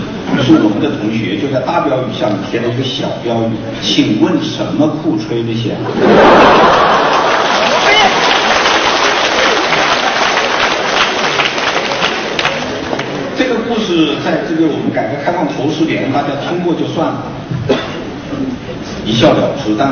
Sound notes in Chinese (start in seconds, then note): 10.2 众人笑声; 11.5 众人鼓掌声